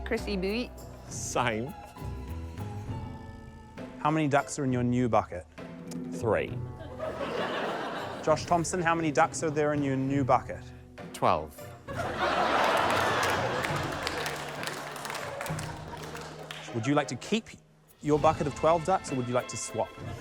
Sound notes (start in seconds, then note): 6.8 laughter; 11.9 laughter, applause; 20.0 laughter